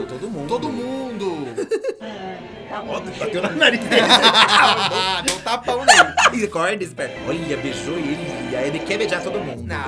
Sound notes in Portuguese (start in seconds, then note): 3.7 risos